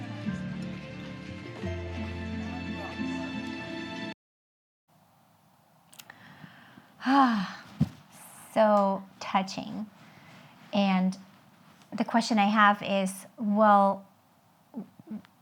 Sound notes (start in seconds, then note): 7.0 woman sighs loudly